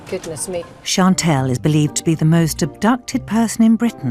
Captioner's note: voiceover